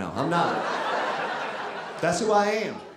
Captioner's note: audience laughing